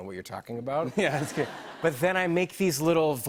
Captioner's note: laughter